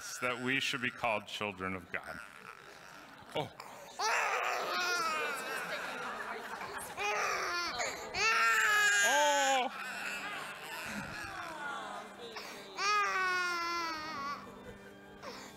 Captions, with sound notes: that we should be called children of God. (baby crying)